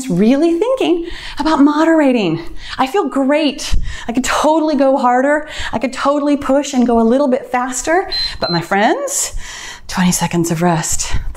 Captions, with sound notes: really thinking about moderating. I feel great, I can totally go harder, I could totally push and go a little bit faster, but my friends, (timer beeps) 20 seconds of rest.